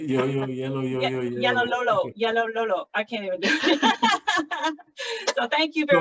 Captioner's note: laughs